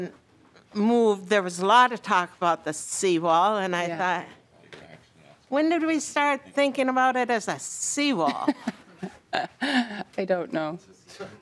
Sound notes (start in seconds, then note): 5.3 laughing